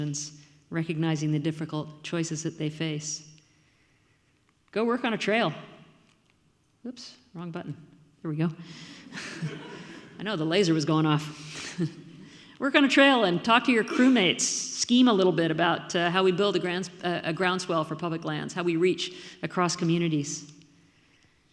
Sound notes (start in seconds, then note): 9.2 audience laughs